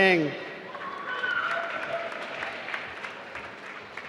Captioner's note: applause